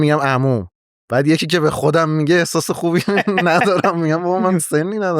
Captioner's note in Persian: خنده